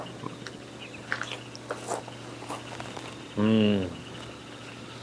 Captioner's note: munching on steak